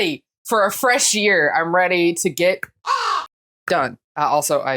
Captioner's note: caw